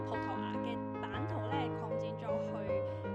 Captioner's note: speaking Cantonese